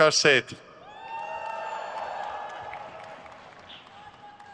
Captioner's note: crowd cheers